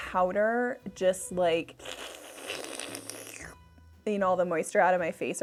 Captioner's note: slurping